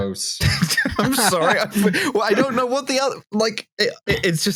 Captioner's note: laughs